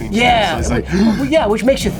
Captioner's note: grunts